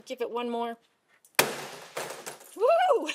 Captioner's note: bat slamming